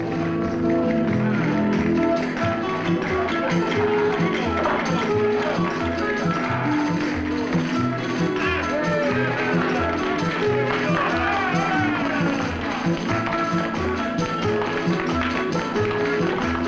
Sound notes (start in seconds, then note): 8.6 crowd cheering